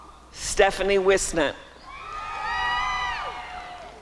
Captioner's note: applause and cheering